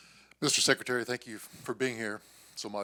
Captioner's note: bold Voice